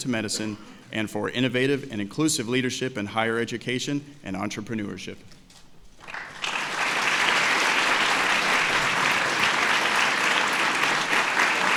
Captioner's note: applause